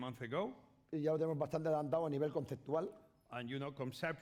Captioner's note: speaking spanish